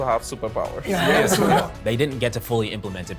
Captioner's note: laughs